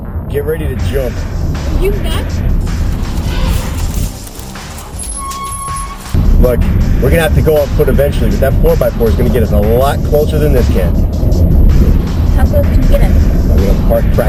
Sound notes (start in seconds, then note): 2.5 brakes squeak; 2.6 branches crunch; 2.6 elephant trumpet